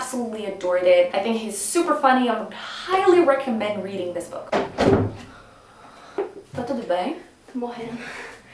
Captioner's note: in Portuguese, startled